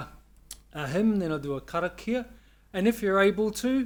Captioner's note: speaks Maori